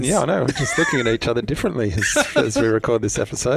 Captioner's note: laughs